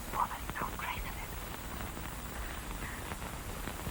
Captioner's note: whispering